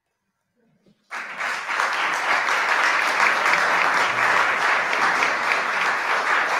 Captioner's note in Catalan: aplaudiments